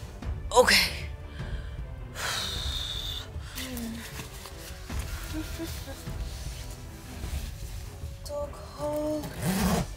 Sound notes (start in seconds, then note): 2.1 sighs